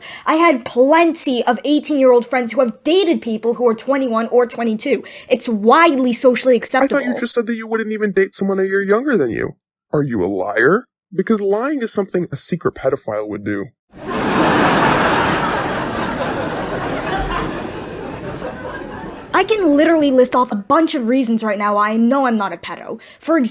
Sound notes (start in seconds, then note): 13.9 audience hoots and wheezes with laughter